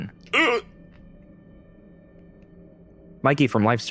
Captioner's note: belch